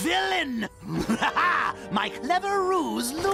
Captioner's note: cackles